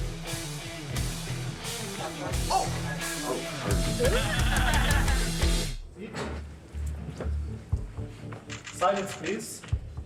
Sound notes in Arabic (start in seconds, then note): 4.0 يضحك الجمهور; 6.5 موسيقى متوترة